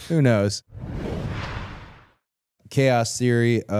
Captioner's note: rushing sound plays